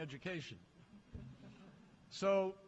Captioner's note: laughter